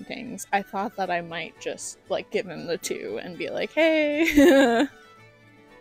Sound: laughter

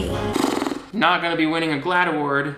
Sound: exhales

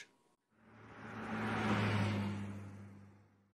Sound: car accelerating

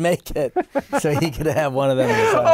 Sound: laughter

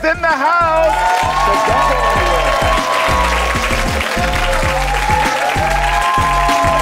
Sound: audience cheers

